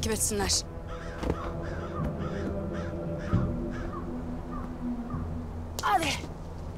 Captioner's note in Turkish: Kuş sesleri